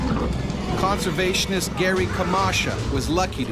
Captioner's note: voiceover